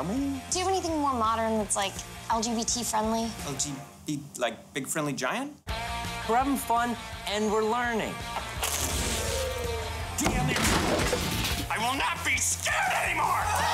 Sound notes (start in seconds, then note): 8.6 electricity crackles; 12.7 all screaming